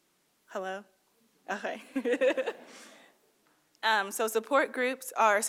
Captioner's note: laughing